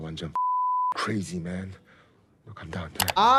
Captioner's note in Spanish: Thanos hablando en coreano; pitido; Thanos habla en coreano